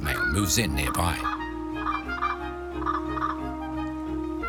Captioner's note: bird sings